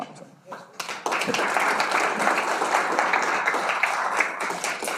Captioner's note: audience clapping